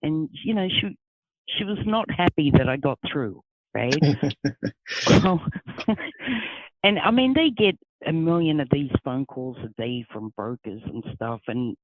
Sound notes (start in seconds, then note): 3.9 laughing